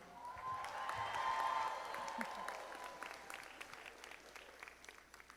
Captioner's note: audience applauding